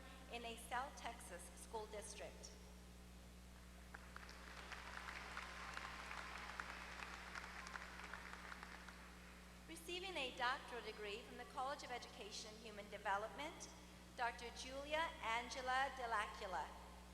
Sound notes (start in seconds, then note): 3.8 applause